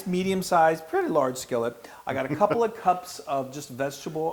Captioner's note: laugh